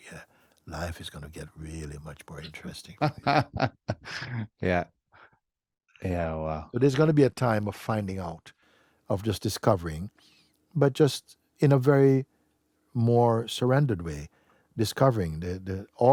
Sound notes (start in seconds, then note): 5.6 laughs